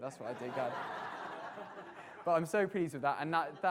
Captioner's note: audience laughter